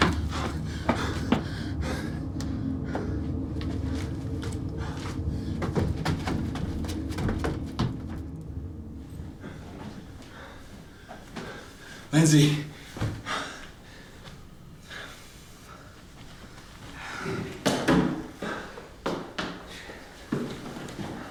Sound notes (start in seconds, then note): 0.1 footsteps clicking; 2.3 Matt heavy breathing; 17.9 footsteps clattering